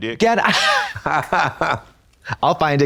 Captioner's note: blonde Women giggle